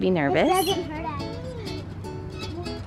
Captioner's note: cheerful music; speaks faintly